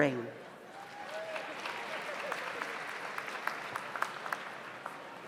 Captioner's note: audience applauds